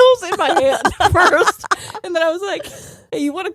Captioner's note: both laughing